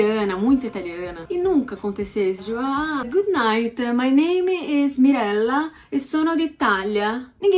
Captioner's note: introducing myself in italian